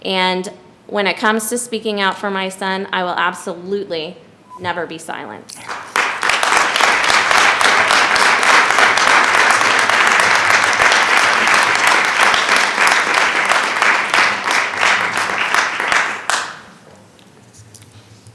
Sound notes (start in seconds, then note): 5.9 attendees clapping